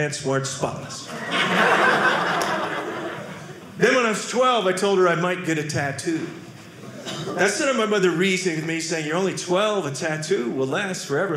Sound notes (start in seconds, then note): 1.0 audience laughing